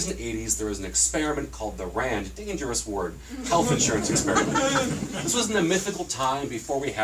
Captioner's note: laughter